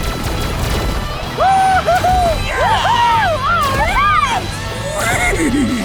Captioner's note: cheering